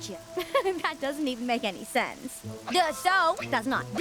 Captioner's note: chuckles